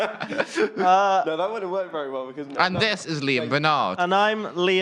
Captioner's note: laughter